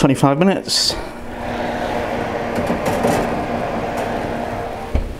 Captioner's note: oven roar again